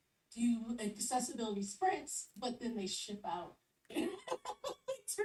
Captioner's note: laughs